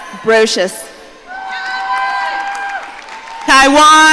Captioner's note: audience cheering